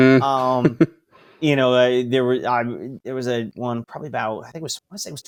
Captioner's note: laughs